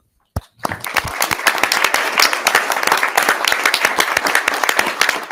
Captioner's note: audience applauding